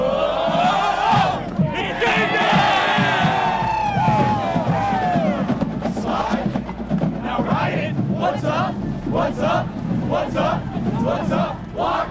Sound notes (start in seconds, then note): 3.6 cheering